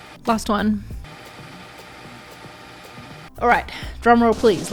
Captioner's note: tape fast-forwarding